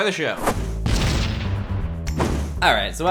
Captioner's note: explosion noise